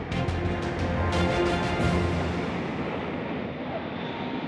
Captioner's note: plane hums